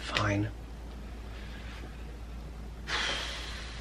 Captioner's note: both sigh